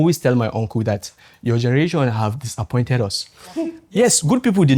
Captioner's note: laughs